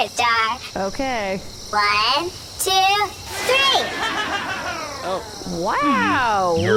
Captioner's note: unenthusiastic; shrinking machine noise